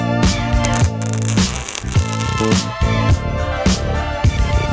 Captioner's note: sparks crackling